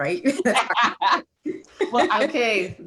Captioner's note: laughs